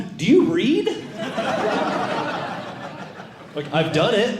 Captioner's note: audience Laughing